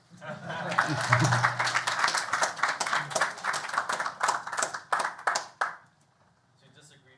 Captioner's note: applause